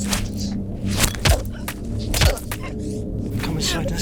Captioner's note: Sarah grunting